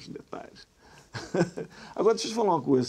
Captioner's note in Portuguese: Risada